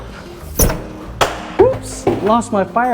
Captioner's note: hat thuds